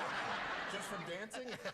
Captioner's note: laughter